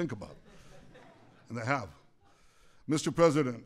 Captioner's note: laughter